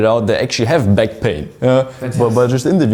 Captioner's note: chuckles